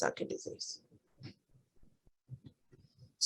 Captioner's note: silence